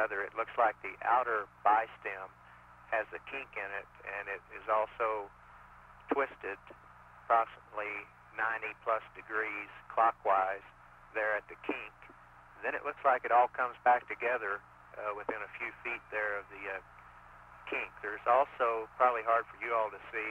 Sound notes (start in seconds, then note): none